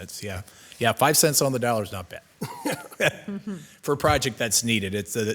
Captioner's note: chuckles